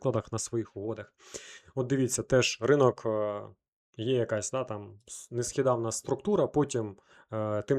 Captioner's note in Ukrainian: сопіння